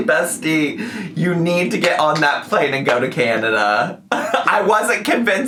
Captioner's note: laughs